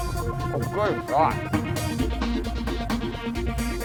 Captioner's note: mumbles; upbeat music continues